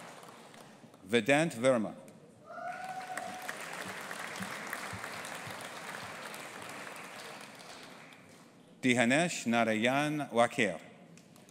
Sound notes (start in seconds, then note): 2.6 audience applauding